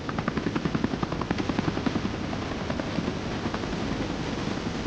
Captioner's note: helicopter whirring